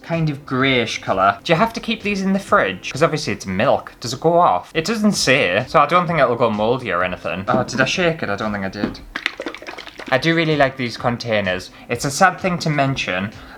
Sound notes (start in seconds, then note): 8.8 liquid Swishing